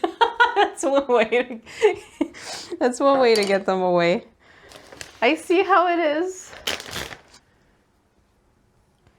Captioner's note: laughs; ziplock opens